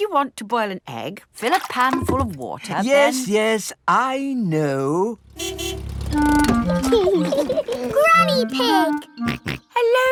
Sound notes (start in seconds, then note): 5.2 car honking; 6.8 laughing; 9.2 snorts